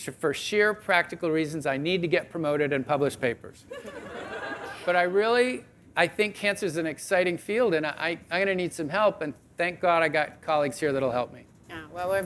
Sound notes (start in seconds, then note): 3.8 audience laughing